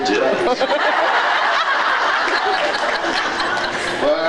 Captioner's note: laughs